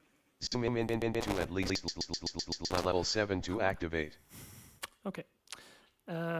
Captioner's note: screenreader, talking and stuttering